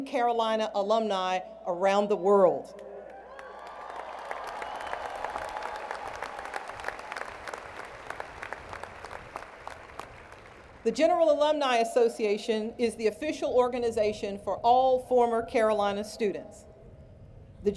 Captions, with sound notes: Carolina alumni around the world. [Cheers and Applause] The General Alumni Association is the official organization for all former Carolina students.